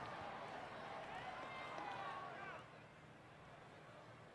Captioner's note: crowd jeering